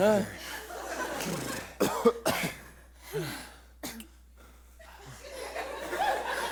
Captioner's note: heavy breathing